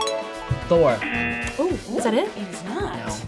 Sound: klaxon sounds; bell dings

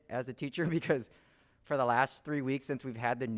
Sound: chuckles

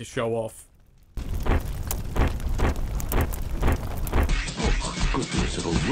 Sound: heavy stomping

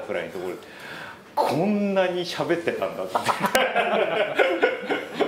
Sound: laughs

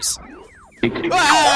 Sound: rockets spin wildly

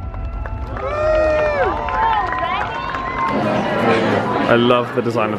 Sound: crowd cheering and clapping

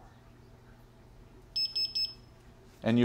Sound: beeping

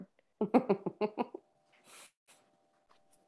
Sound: laughs

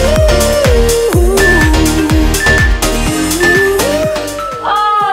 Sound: timer beeping

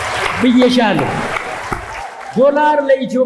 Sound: applause

